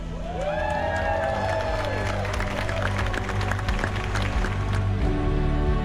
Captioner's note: people cheering and clapping